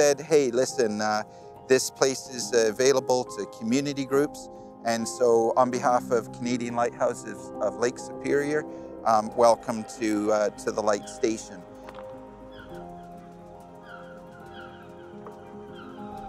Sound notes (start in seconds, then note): 11.9 gentle music; 13.7 gulls cawing